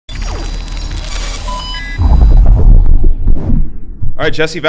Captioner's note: electronic noises